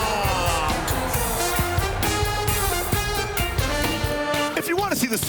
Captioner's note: cheers and applause